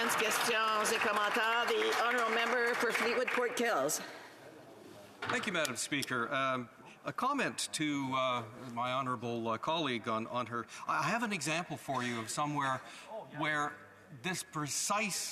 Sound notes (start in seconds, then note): 0.0 some Applause; 4.5 speaking French